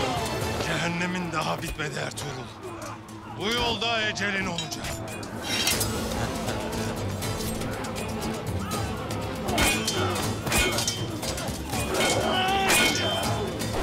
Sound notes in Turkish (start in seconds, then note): 6.0 Kılıç sesleri; 9.1 Üst üste bağrışmalar